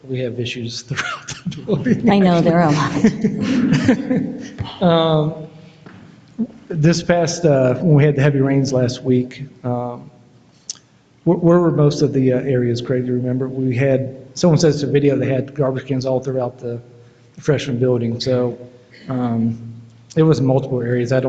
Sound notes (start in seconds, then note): 3.4 board members chuckle